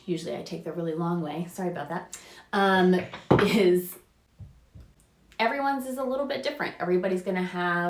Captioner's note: bang in next room